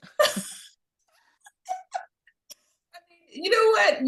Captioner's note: laughing